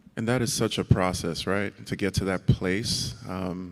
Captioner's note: none